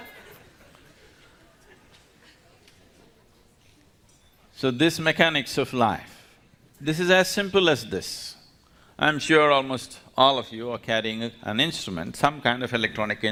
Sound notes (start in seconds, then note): 0.0 laughs; 0.0 laughter